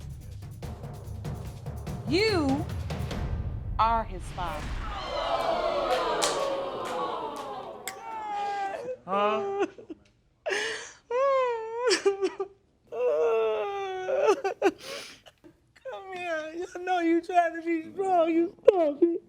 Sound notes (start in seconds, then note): 4.6 audience exclaiming; 8.8 sobbing